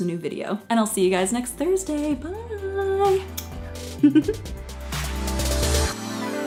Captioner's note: giggles; upbeat electronic music